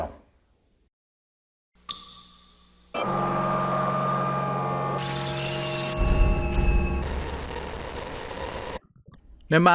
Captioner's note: sound FX